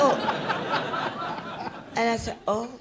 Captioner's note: audience laughs